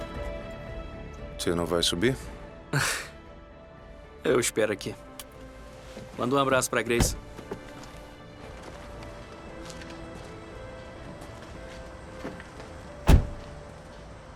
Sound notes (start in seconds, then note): 2.8 scoffs; 13.0 door closes